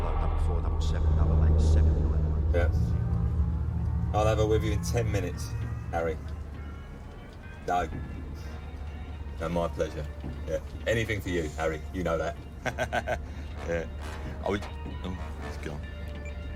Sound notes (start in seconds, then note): 12.5 laughs